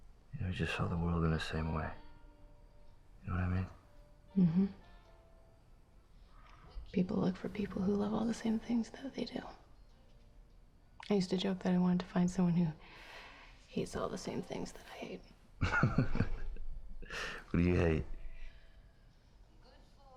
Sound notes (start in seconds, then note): 15.6 laughs